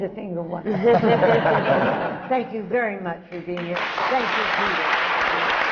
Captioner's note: laughter